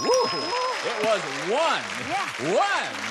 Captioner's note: ding